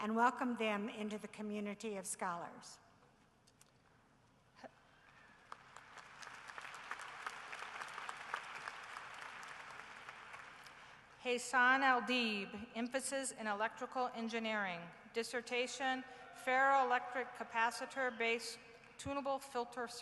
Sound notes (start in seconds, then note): 5.1 applause